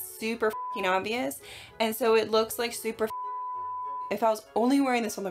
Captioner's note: beep; beep